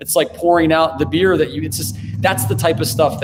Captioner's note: car engine revs